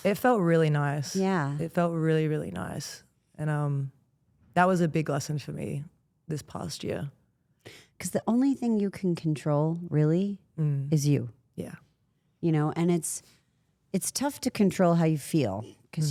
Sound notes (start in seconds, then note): none